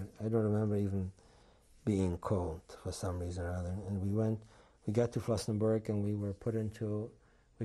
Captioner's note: none